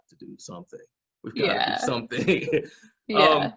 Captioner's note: laughs